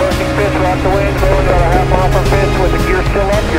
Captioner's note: fireworks booming